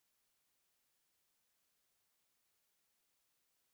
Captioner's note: speaking faintly